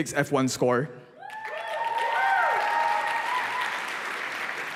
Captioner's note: applause